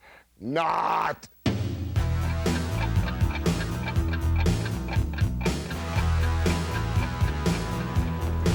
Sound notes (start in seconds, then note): 1.5 rock music; 2.0 clock ticking